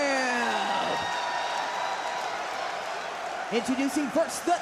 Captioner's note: crowd cheers